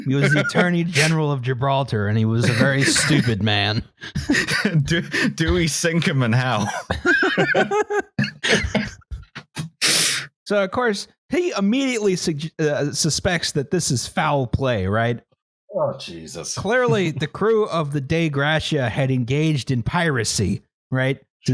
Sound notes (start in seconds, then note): 5.8 laughter